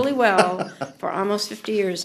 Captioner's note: laughter